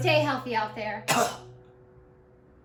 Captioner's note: cough